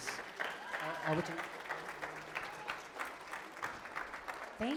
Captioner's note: applause